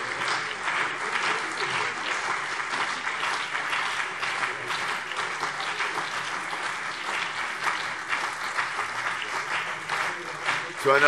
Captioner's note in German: Heiterkeit und Beifall CDU und BÜNDNIS 90/DIE GRÜNEN